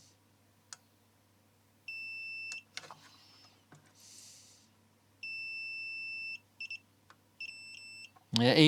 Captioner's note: beeping